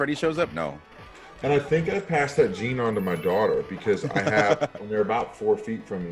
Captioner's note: laugh